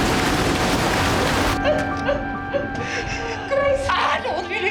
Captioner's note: crying